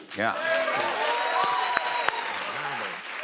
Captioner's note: cheers and applause